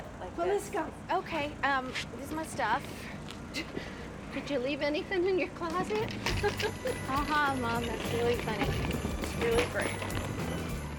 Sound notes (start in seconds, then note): 6.2 laughs